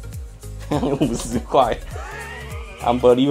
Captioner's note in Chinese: 傻笑